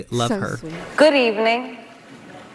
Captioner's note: soundbite of archived recording